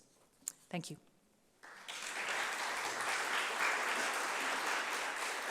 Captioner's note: applause